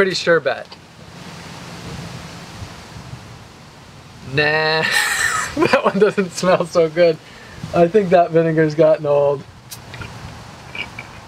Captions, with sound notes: pretty sure bet. Nah (laughs) that one doesn't smell so good. I think that vinegar has gotten old.